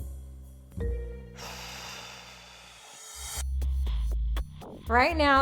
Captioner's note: sighs